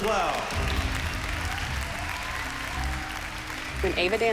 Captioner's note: clapping